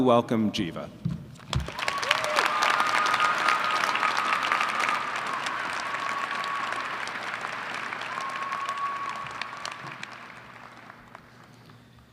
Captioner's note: applause & cheering